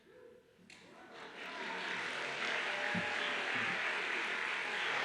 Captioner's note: audience applauds